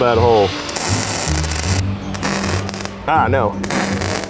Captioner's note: weld zapping